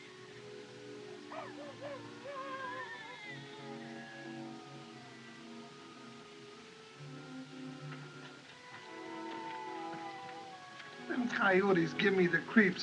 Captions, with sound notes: - [Howling Continues] - [Crying Continues] Them coyotes give me the creeps.